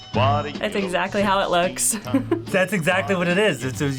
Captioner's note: chuckles